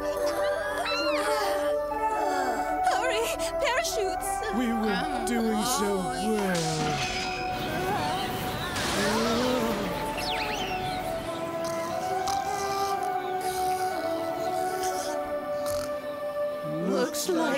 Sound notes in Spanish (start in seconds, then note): 9.4 gritos; 13.1 roncando